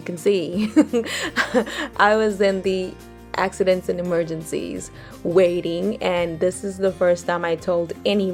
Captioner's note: chuckles